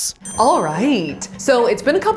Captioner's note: bell ringing